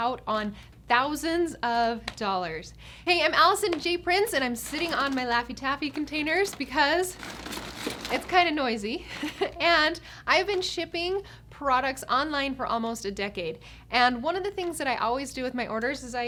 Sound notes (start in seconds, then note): 7.6 packaging rustles